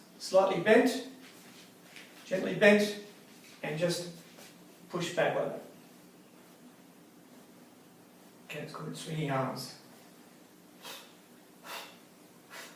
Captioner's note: exhaling loudly